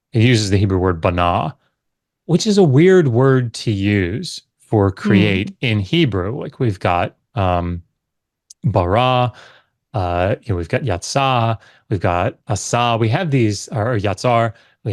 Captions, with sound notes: He uses the Hebrew word (speaks Hebrew), which is a weird word to use for “create” in Hebrew. Like we've got (speaks Hebrew). We've got (speaks Hebrew). We've got (speaks Hebrew). We have these, or (speaks Hebrew).